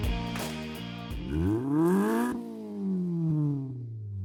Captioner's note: engine revs